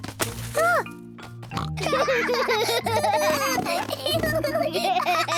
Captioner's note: both laugh